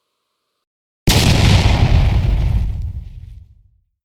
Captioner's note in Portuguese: efeito explosão